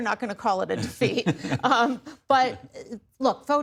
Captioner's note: laughter